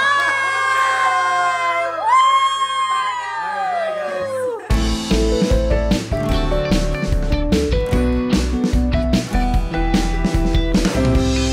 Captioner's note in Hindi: तालियां